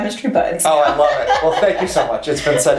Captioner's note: laughs